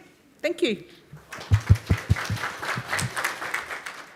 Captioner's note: applause